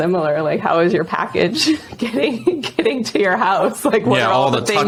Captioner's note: laughing